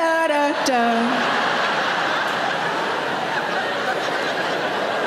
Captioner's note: audience laughing